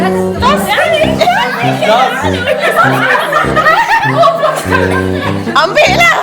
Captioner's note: laugh